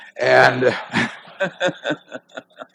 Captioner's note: laughter